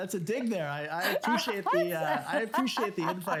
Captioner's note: laugh